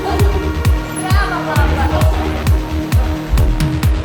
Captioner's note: laughing